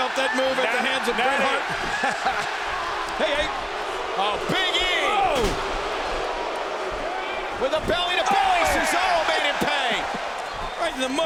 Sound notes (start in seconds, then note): 2.2 JBL laughs; 6.1 crowd boos